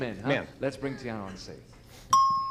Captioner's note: ding